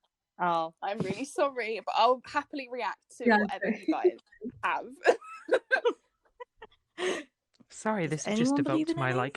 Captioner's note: laughter